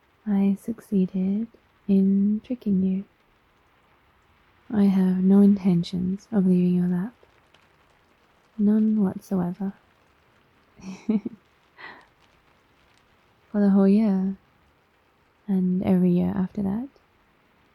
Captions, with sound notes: I succeeded in tricking you I have no intentions of leaving your lap none whatsoever *laughs* for the whole year and every year after that